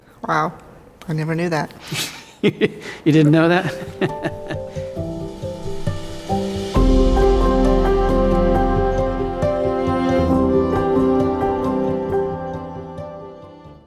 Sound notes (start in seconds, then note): 2.0 laughs; 5.8 gentle music